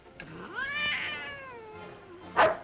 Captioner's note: cat meows; dogs bark